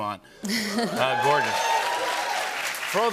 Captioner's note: cheers and applause